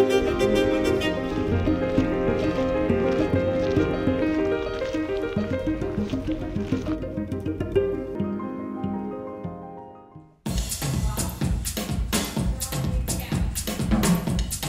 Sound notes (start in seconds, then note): 1.6 footsteps crunching; 10.4 upbeat drumming music